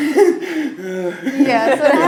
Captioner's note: laughing